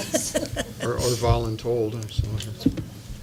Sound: laughter

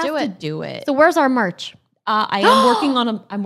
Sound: gasps

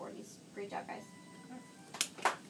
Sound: claps

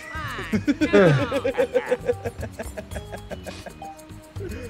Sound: laugh

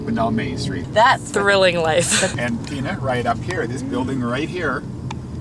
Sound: laughs

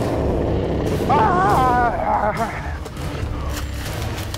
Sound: screams

